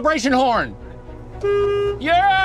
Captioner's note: car Horn